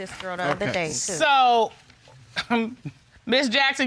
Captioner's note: chuckles